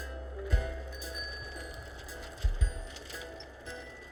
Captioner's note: bicycle bell rings